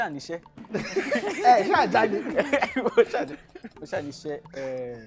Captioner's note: laughs